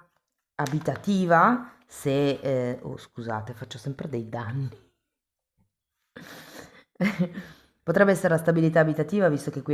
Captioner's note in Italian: risate